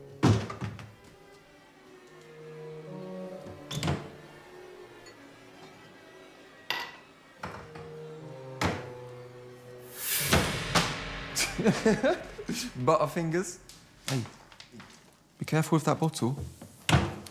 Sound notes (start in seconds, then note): 0.0 door squeaking; 0.0 pensive music; 0.3 door clattering; 0.3 eerie music; 3.5 cabinet clattering; 6.8 dish clanking; 8.6 cabinets clattering; 9.9 item thuds; 10.1 dramatic music; 10.9 Toby laughs; 16.8 cabinet clattering